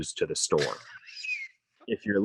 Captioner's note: laughs